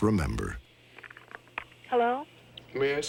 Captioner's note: on phone